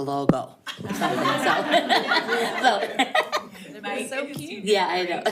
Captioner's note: all laughing